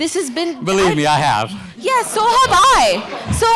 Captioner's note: audience laughter